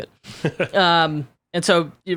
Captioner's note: laughing